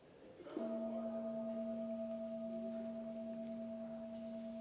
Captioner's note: metal bowl chimes